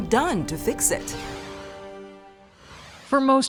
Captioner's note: air whooshes